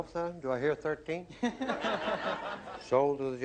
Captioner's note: laughter